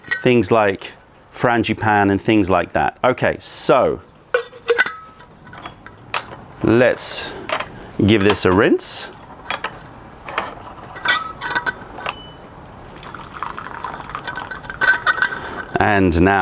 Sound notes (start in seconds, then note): 4.7 pouring water; 12.7 pouring tea